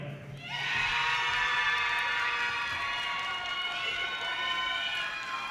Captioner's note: audience cheers and applause